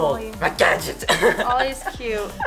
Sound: laughing

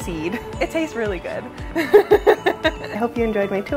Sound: laughs

